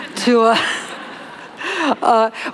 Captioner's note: laughter